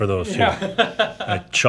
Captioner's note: laughing